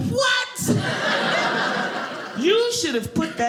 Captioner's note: audience laughing